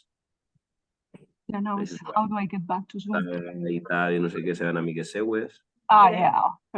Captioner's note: Someone speaking in Catalan from Zoom